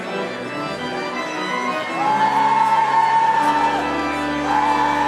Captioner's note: audience cheering